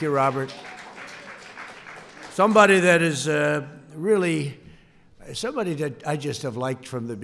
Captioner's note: applause